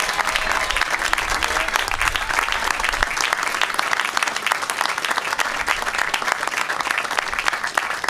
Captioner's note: applause